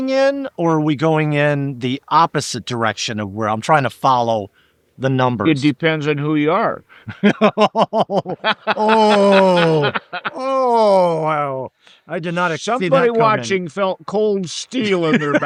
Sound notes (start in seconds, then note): 7.0 laughing